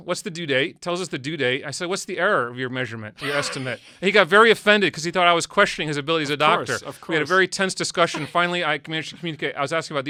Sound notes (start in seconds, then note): 3.2 laughs